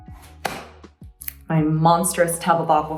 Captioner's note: tub thudding